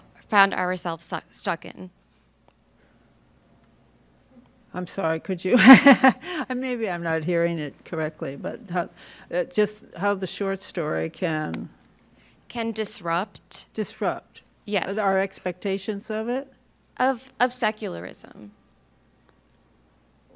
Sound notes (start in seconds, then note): 5.7 laughs